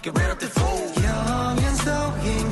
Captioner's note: none